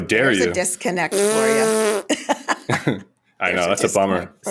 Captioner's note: blows raspberry